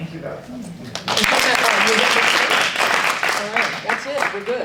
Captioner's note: audience applauding